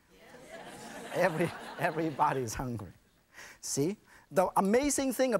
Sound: laughs

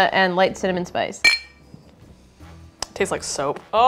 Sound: glasses clinking

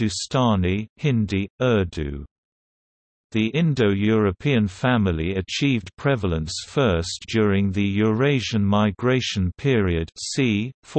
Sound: hindi/Urdu

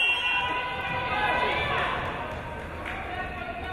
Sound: whistle blows

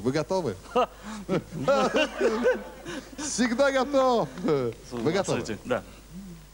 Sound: laughter

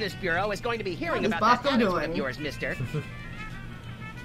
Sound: laughs

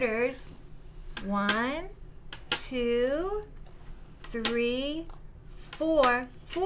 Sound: coins click

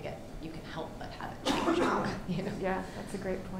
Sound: coughing drowns out speaker

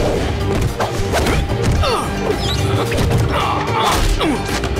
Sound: grunting

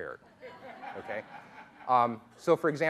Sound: laughing

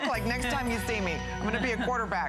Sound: laughter

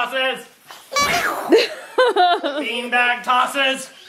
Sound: laughing

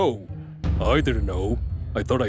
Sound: dramatic thump

